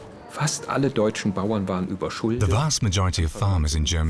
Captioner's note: speaking german